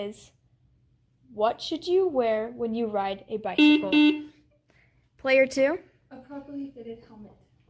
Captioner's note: buzzer sounds